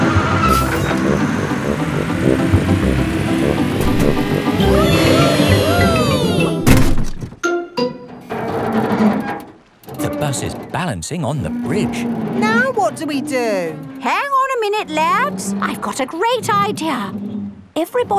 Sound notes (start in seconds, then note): 4.6 all cheering; 8.7 creaking